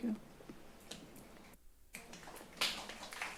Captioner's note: finger snaps